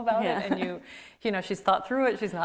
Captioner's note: laughs